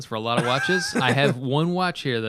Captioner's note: laughter